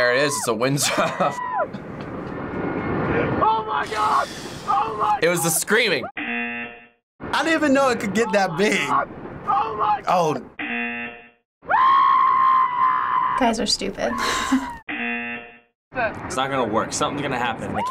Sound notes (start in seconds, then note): 6.2 buzzer; 10.6 buzzer; 11.7 man screaming; 14.8 buzzer